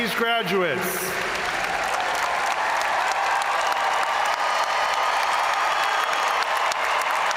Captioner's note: crowd applauding; crowd cheering